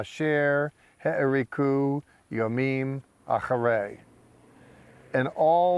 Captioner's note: speaking in Hebrew